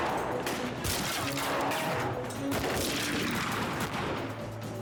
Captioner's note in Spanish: continúa la balacera